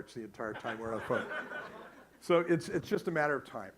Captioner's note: audience laughs